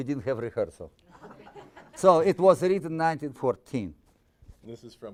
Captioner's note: audience laughing